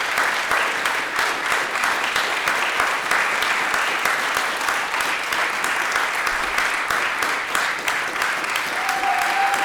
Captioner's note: applause, cheering; applause; applause, cheering